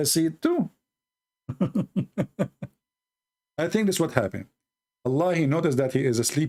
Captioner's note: Ketawa